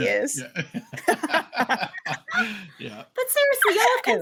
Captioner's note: all laughing